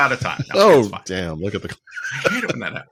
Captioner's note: laughing